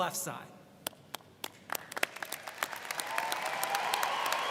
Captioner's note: audience cheers